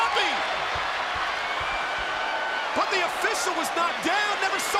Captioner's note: applause